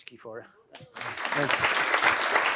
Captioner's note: applause